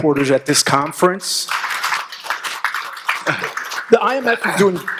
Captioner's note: audience appluading